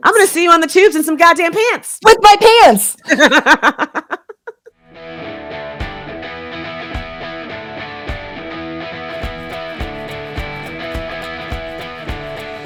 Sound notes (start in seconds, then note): 3.0 laughing; 5.0 upbeat rock music